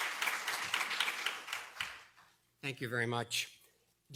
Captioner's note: applause